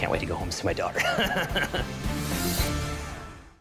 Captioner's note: laughs